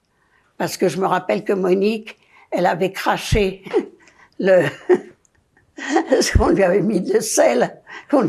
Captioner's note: laughing